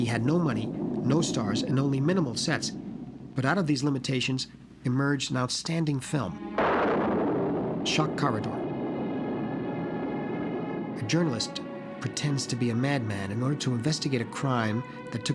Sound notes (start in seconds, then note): 6.3 thunderclap